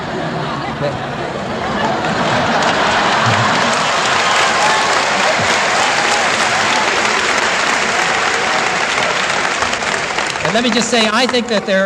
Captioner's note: applause